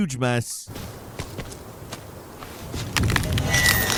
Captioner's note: footsteps pattering; sinister sound effect